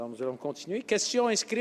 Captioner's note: speaking French